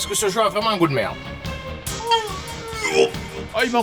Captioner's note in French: vomissements